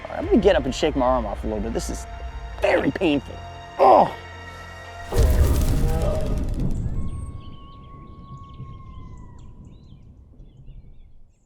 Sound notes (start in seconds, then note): 4.3 grunts; 6.6 birds chirping